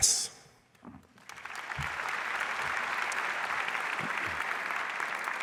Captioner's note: audience applauds